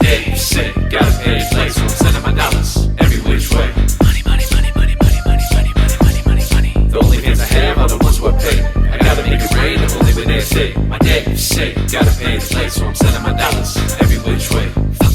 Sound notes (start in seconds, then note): 4.0 whispering; 7.0 rapping